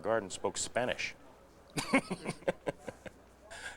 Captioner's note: lauhs